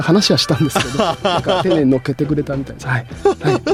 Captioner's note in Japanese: 笑い